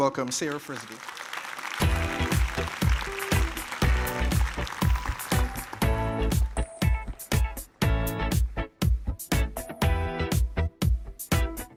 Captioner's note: applause